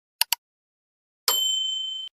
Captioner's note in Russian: колокольчик